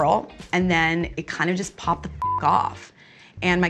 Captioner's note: beep